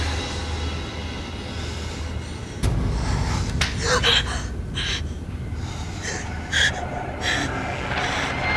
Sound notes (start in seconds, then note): 3.9 gasps